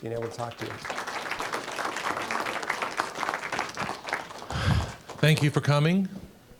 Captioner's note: applause